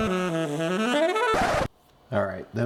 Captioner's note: seductive music; record scratches